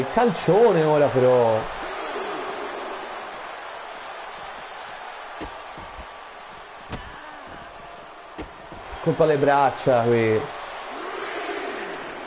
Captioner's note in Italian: Applauso